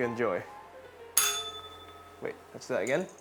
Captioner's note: bell rings